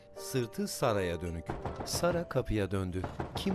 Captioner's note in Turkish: Kapı vurma sesi